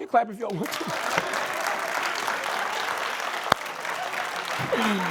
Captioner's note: applause